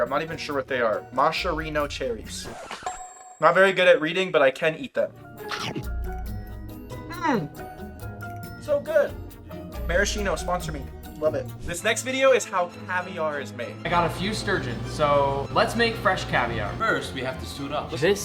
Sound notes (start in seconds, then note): 5.1 upbeat music; 5.5 comical chewing